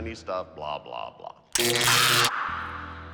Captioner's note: zapping, screaming